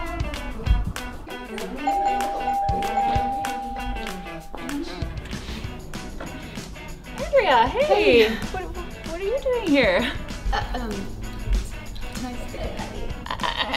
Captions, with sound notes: (bell rings) - Andrea, hey. - Hey. - What are you doing here? I mean, I thought you were in Chicago taking care